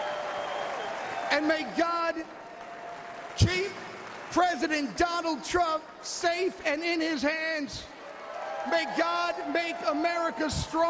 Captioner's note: applause